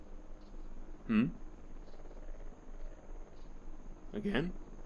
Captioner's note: drone flying over head